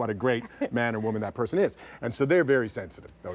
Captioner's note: laughter